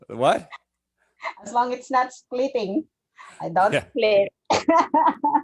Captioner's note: laughs; laughs